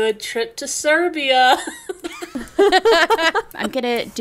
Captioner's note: laughing